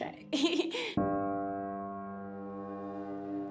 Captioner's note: laughs; inspirational music plays